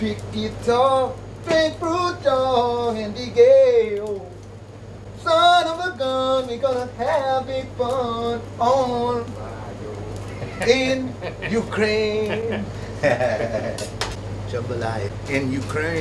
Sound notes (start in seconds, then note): 10.3 laughter